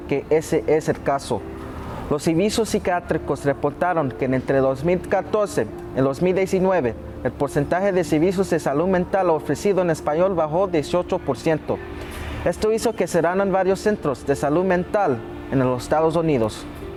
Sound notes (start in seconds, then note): 6.5 speaking Spanish